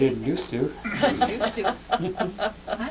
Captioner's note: laughter